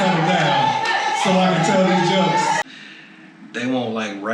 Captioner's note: loud audience screams; screams; audience chanting